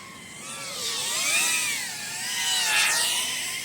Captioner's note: sound of flying machine